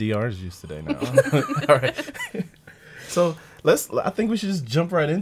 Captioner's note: laughing